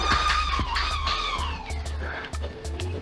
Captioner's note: battle sounds trailing off